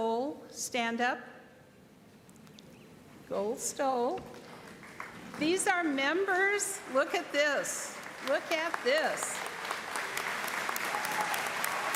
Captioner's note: applause